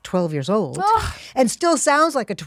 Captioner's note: sighs